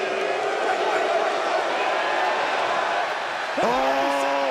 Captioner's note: crowd boos